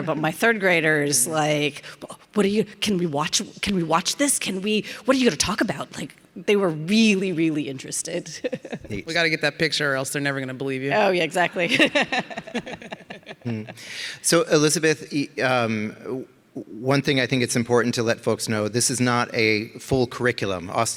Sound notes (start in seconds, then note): 8.4 laughs; 11.6 all laughing